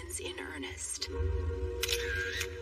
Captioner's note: camera a shutter clicks